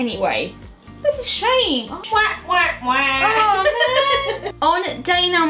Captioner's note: mum, laughing off camera